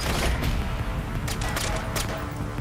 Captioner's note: gunfire